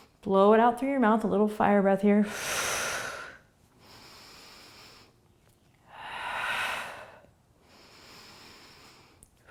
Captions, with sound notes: Blow it out through your mouth. A little fire breath here. (exhaling and inhaling)